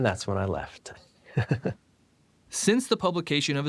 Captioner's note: laughs